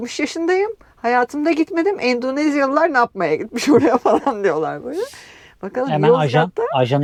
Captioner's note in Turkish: kahkaha